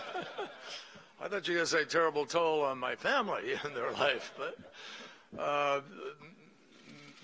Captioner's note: laughter; laughter